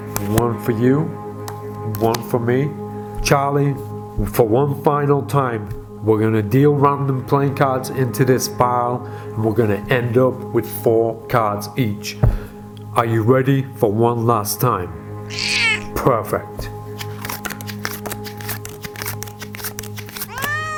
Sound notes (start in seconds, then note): 15.3 cat meows; 16.6 cards shuffling